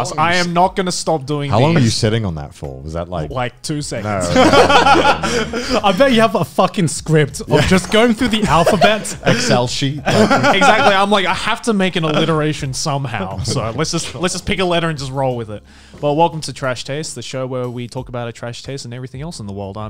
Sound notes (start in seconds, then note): 4.1 laughing